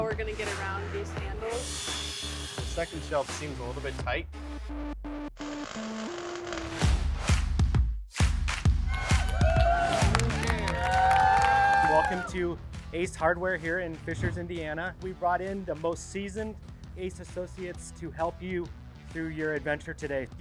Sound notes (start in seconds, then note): 7.2 energetic music; 8.8 group cheering